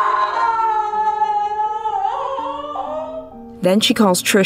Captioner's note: scream fades into crying